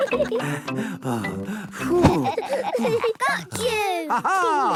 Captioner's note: all laughing; panting